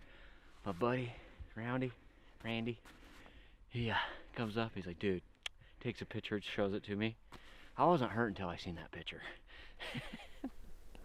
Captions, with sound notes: My buddy Roundy, Randy, he comes up, he's like, dude, (click) takes a picture and shows it to me. I wasn’t hurt until I seen that picture. (laughing)